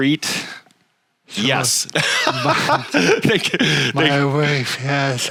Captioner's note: laughing